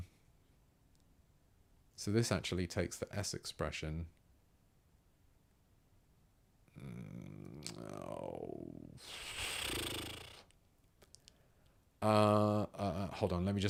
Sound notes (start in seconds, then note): 9.0 blows raspberry